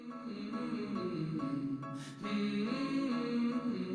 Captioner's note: soothing humming